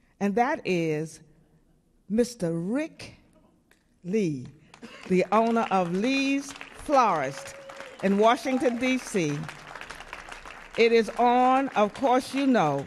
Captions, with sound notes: And that is Mr. Rick Lee, the owner of Lee's Florist [audience clapping] in Washington, DC [audience cheering] It is on, of course you know,